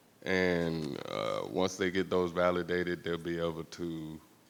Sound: none

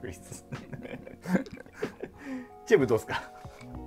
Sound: laughing

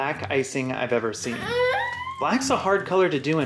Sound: baby noises

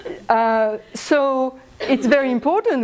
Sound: laughs

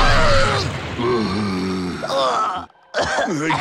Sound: groans and coughs

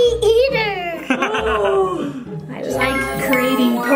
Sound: man laughs

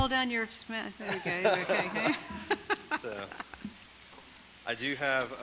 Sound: audience laughing

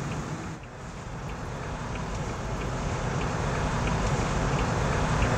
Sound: turn signal clicking

